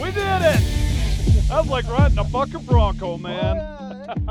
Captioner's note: laughs